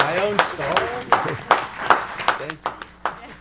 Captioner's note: applause